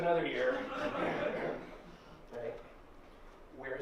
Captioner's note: laughter